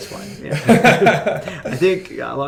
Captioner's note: laughter